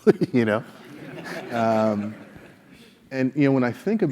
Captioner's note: laugh